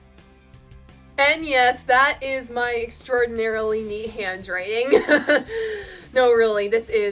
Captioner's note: laughs